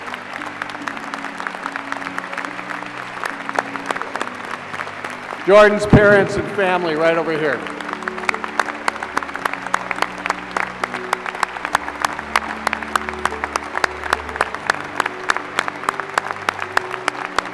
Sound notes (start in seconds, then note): 13.6 applause